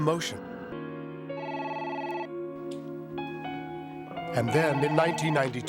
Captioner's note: phone ringing